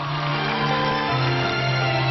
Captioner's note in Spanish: aplausos